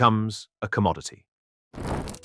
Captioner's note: fire burning